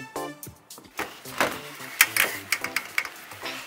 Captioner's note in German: Klackern